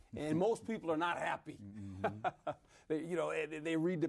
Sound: laughs

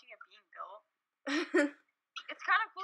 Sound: laughs

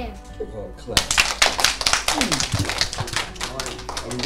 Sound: applauding

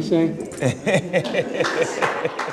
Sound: laughing

